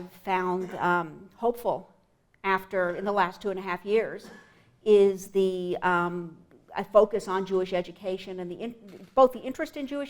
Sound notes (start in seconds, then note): 0.5 cough; 4.2 clears throat